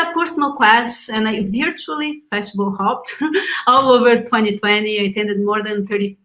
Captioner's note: laughs